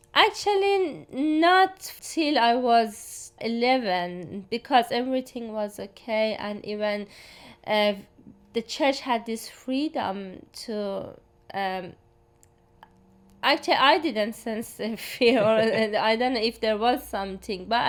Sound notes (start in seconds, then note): 15.2 laughs softly; 15.2 laughs